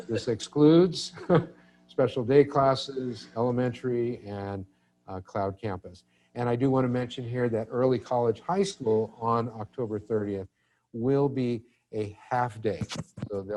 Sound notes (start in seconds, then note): 1.0 chuckles; 1.0 person chuckles